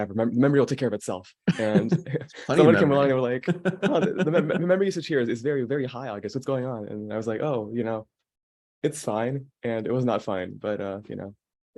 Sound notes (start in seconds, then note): 3.4 laughing